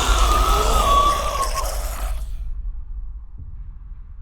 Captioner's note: shriek; death rattle